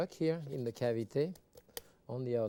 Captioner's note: hand patting